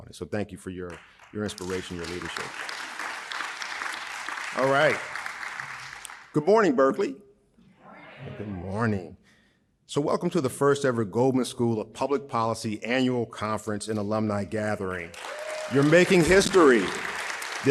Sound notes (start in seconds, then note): 2.6 audience applauding; 15.0 audience applauding